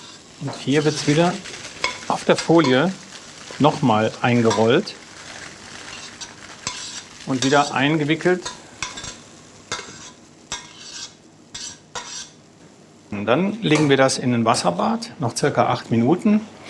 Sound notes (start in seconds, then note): 8.3 metallic clanging in the background